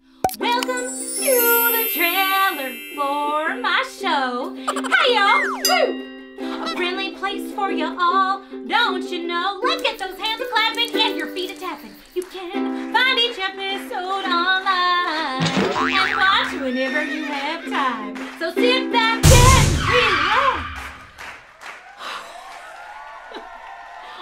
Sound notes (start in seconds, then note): 0.3 chimes; 6.6 squwak; 9.7 crackling; 11.7 applause; 16.4 neigh; 19.2 crash, bang, skid; 20.5 applause